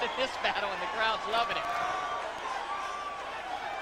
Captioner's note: loud cheers from audience